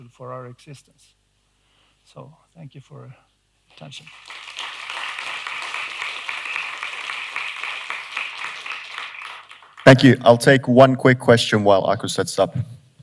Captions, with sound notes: *Applause* "Thank you. I'll take one quick question."